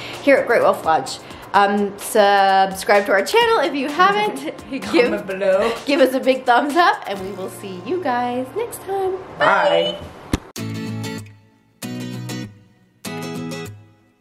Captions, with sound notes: here at Great Wolf Lodge. Subscribe to our channel if you (laughing) haven't. - Comment below. - Give us a big thumbs up and we will see you guys next time, bye! - Bye! (upbeat guitar music)